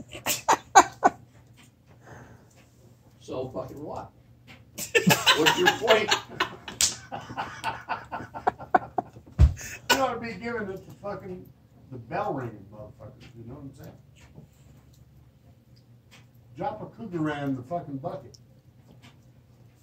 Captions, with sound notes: So fuckin what? What’s your point? [laughter] You ‘oughta be givin’ us the fuckin, the bell ring motherfucker you know what I'm sayin? Drop a Krugerrand in the fuckin bucket.